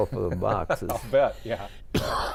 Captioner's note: laughing